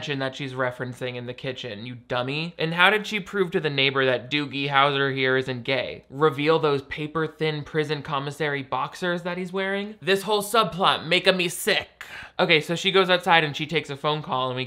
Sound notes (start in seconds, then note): none